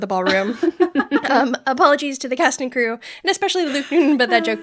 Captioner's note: laughter